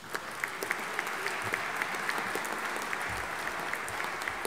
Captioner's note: audience applauding